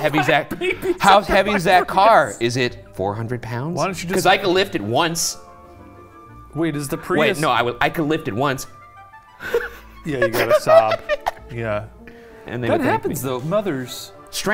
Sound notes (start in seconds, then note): 0.0 laughing; 10.1 crying